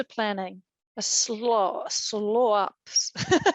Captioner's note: laughing